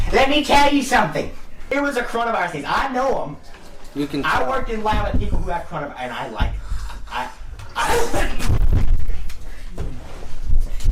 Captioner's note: sneezes Loudly